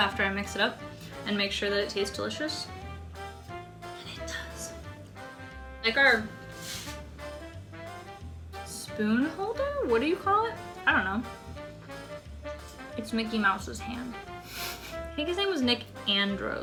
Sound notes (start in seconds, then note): 4.4 whispers